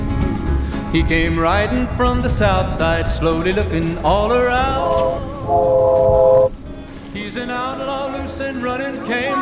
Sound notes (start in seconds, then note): 5.4 train whistle blows